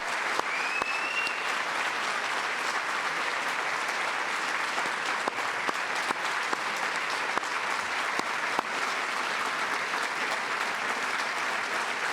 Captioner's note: applause